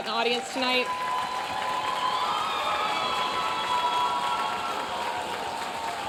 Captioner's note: audience cheering and applauding